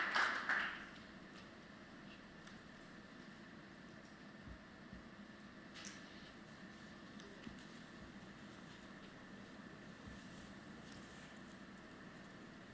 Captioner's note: applause